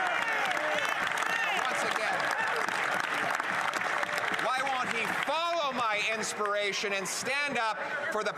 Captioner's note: some Applause